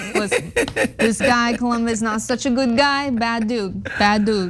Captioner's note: laugh